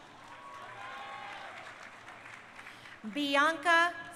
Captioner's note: crowd cheering